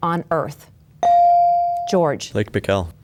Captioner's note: bell dings